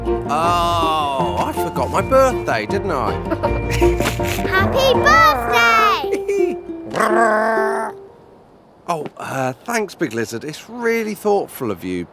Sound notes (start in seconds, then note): 3.0 chuckles; 7.0 Big Lizard cheering